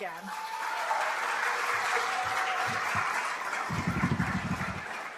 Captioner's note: cheering